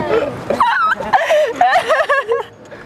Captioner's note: laughing